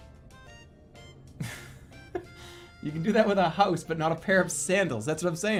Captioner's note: chuckles